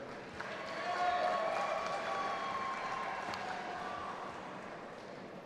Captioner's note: audience applauding and cheering